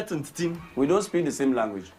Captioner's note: foreign language